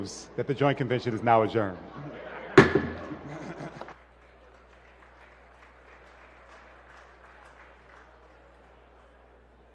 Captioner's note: laughter